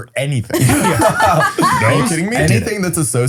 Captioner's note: all laughing